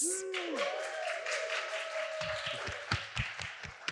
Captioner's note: applause